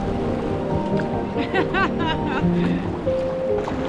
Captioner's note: laughter